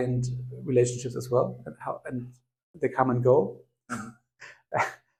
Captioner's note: laugh